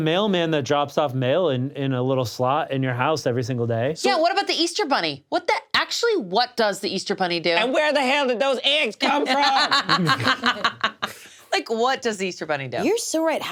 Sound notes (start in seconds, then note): 9.0 laughs